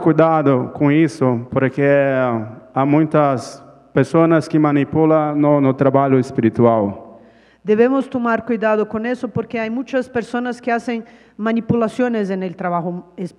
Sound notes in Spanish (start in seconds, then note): 0.9 Ponente habla en portugués